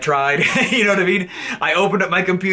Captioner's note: laughs